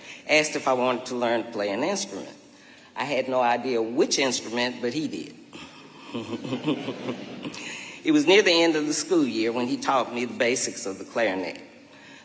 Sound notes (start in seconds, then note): 5.7 chuckling; 6.0 audience laughing